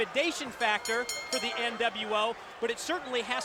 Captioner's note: ring bell dinging